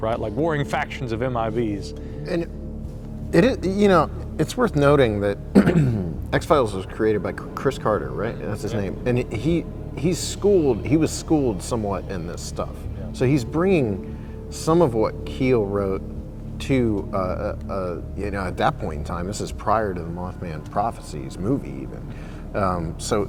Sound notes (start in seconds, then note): 5.5 clears throat